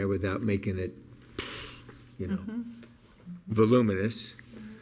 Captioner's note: exhales loudly